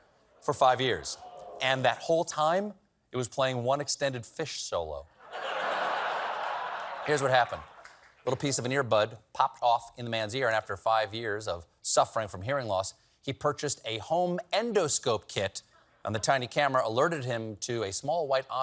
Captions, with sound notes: FIVE YEARS. AND THAT WHOLE TIME, IT WAS PLAYING ONE EXTENDED PHISH SOLO. ( LAUGHTER ) PIECE OF AN EARBUD POPPED OFF IN THE MAN'S EAR, AND AFTER YEARS OF SUFFERING FROM HEARING LOSS, HE PURCHASED "A HOME ENDOSCOPE KIT," AND "THE TINY CAMERA ALERTED HIM TO A SMALL WHITE